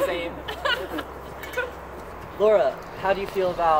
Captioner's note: laughing